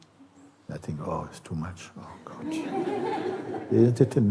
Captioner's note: laughter